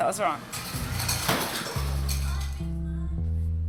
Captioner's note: clattering